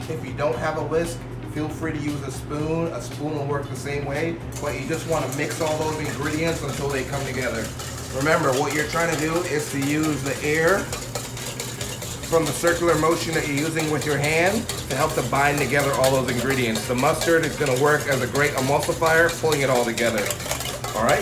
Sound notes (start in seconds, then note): 11.3 whisking